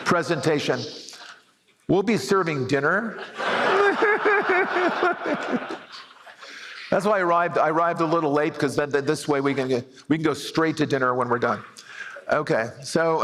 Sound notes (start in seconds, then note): 3.1 laughter